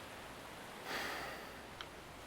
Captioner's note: sighs